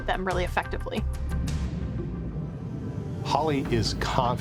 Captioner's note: water bubbling